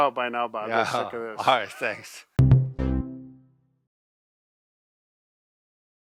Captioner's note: laughs